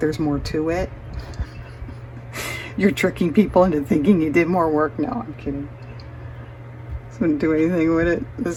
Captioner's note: laughs